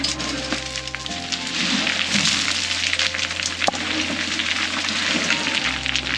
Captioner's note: rocks and gravel crunching